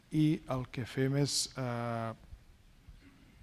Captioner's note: speaking spanish